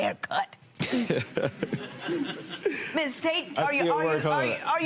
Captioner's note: laughter